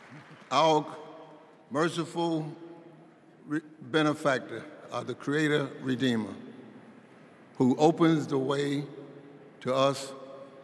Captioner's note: applause